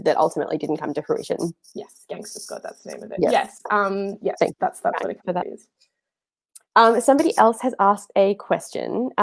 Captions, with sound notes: that ultimately didn't come to fruition. - Yes, "Gangster Squad," that's the name of it. Yes. - Yes, (murmurs). Somebody else has asked a question.